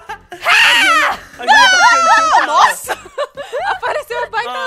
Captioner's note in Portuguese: Risadas; grita